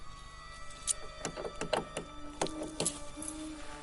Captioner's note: clicking